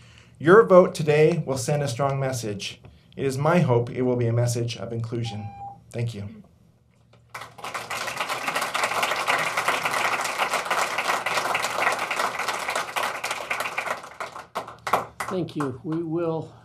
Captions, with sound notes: YOUR VOTE TODAY WILL SEND A STRONG MESSAGE. IT IS MY HOPE IT WILL BE A MESSAGE OF INCLUSION. THANK YOU. (APPLAUSE) THANK YOU.